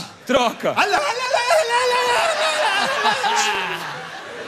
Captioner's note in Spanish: imita árabe